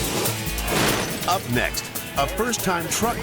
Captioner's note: lively upbeat music; graphic thuds